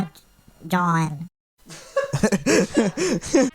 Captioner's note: laughs